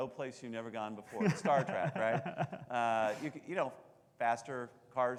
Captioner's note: laughing